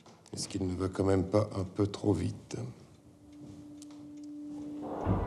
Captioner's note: Louis XVI speaking in French